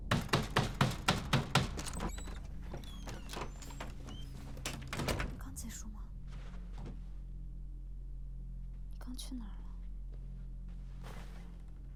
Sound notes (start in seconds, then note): 2.1 door creaks; 4.9 door closes